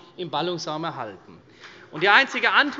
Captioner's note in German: Beifall CDU